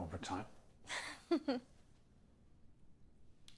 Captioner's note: Kate laughs